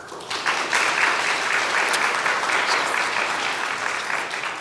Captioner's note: crowd claps